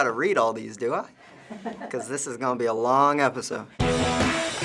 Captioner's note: chuckles; punk rock music